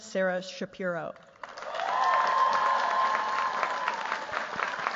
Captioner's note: cheers, applause